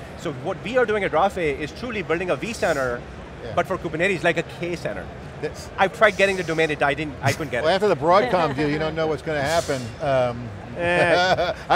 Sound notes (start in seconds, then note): 7.7 laughs; 10.7 laughs